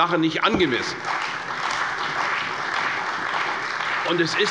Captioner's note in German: Beifall bei der CDU und dem BÜNDNIS 90/DIE GRÜNEN